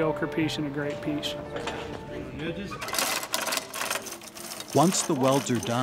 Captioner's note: chain hoist rattling